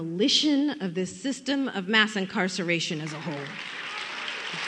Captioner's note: applause